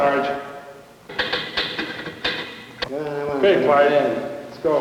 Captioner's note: typewriter clacking